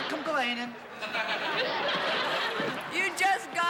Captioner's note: laughter